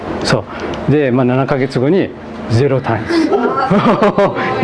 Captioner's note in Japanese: 笑い